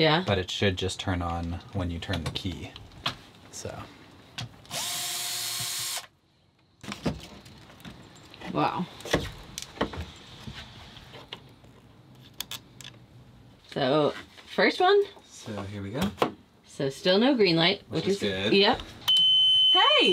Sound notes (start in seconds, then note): 4.7 drill buzzing